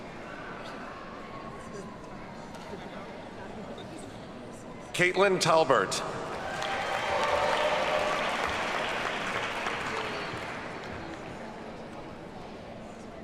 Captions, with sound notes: Caitlyn Talbert. (audience cheers and applauds)